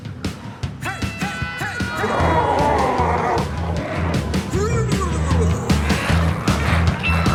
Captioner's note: glowzies growling